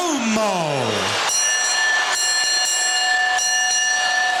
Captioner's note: bell ringing